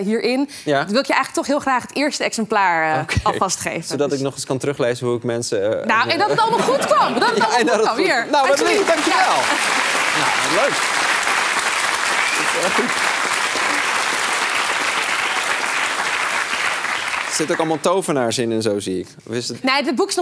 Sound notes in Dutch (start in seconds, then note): 6.0 gelach; 10.8 applaus